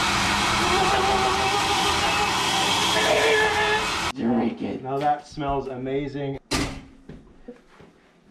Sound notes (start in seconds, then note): 0.0 blender blending loudly; 0.3 strained excited Folf screams